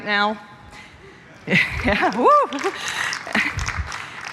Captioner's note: applause